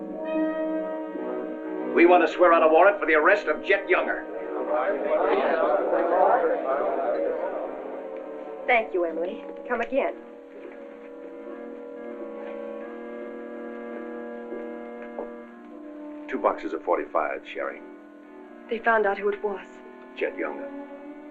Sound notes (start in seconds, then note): 0.1 dramatic music; 4.6 chatter